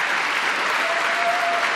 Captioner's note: applause